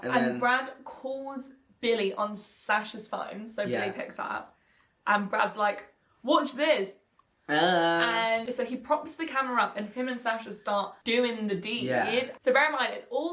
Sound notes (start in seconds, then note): 7.5 exclaims